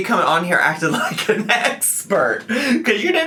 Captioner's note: laughs